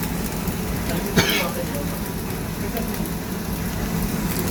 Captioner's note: cough